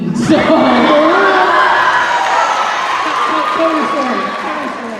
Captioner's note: cheering